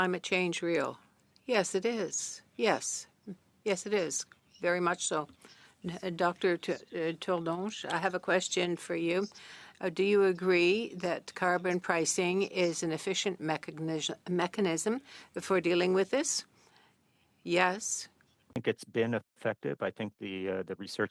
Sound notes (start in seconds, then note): 1.7 speaking in French